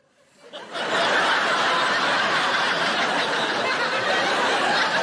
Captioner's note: audience laughing